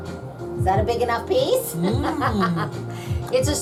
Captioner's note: laughs